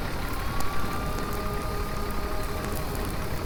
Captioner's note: fire raging; gentle music; fire engine siren blaring